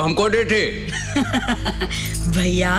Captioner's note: Laughs